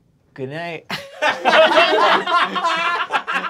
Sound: group laughing

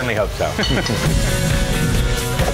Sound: laughter; indie type rock music

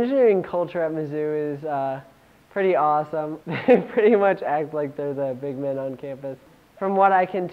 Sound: laughs

